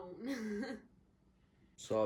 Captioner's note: laughs